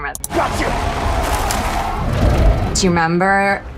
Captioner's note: creature growling